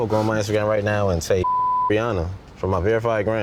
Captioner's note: beep